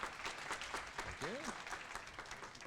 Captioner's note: applause